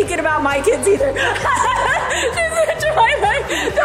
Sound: laughs loudly

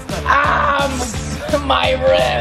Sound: screams

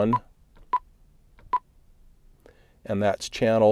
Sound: beeping

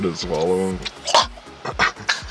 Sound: choking

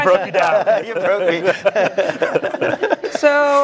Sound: laugh

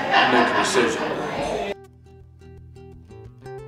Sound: patrons chattering; gentle pensive music

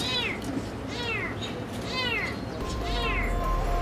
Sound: meow Meow

